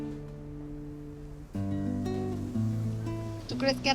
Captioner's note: sizzling